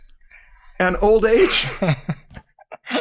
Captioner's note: laughter